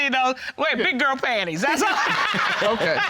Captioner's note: laughing